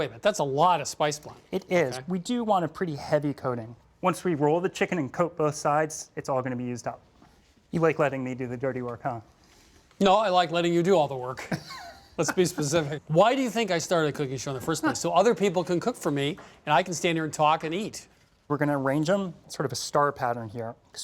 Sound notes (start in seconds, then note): 11.4 laughs